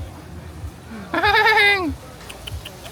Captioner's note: chatting